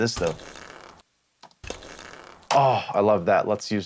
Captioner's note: stick sound